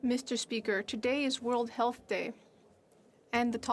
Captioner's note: speaking French